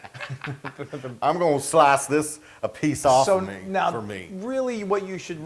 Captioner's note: laugh